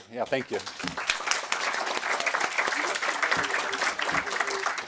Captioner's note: audience clapping